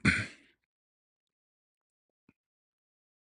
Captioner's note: berdehem